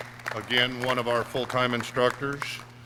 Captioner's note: clapping